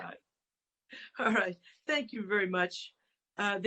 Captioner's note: laughter